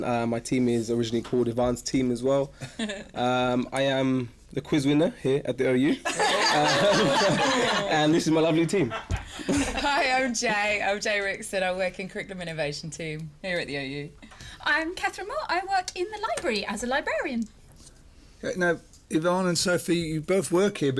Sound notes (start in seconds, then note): 6.0 laughter